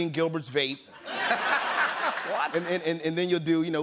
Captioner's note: laughter and applause